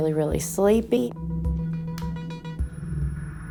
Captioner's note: switch clicking; ominous music